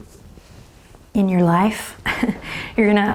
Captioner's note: chuckles